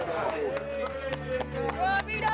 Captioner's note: cheers and applause